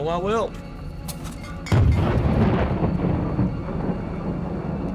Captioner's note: explosion